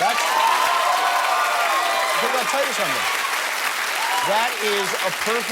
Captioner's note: cheers and applause